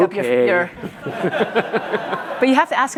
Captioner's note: audience laughs